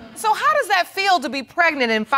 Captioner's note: none